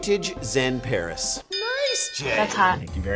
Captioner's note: bell dinging